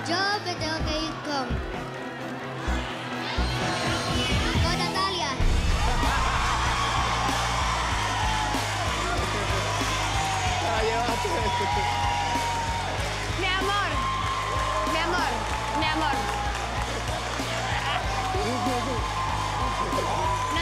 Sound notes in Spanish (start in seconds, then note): 7.7 risas; 11.2 aplausos